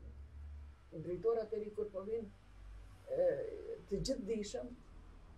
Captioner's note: laughs